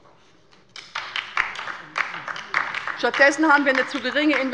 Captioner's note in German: Beifall bei der LINKEN